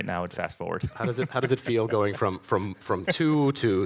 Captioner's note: laughs